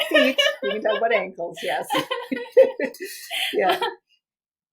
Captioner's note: laugh